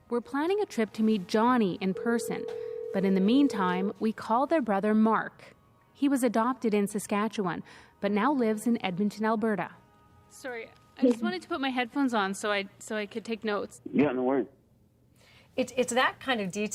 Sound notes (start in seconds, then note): 4.6 ringtone